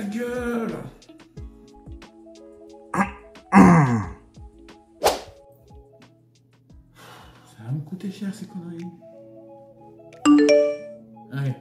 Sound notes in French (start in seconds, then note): 3.5 Raclement de gorge